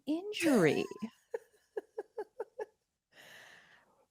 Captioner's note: laughs